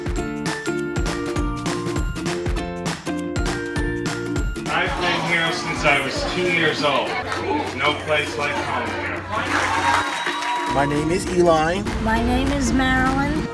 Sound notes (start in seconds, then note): 0.5 bright music; 9.4 crowd cheers